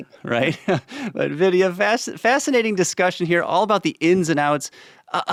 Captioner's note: chuckles